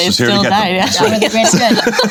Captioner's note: laughing